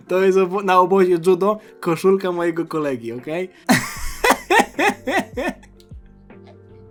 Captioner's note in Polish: śmiech